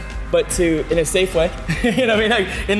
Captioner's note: laughs